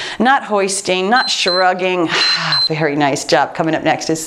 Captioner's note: timer beeps